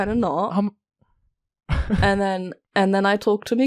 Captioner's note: Rik chuckles